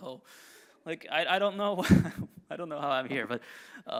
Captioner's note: chuckles